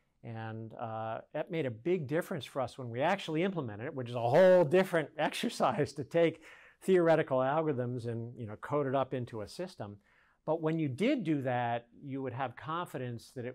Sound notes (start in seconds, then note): 4.3 laughs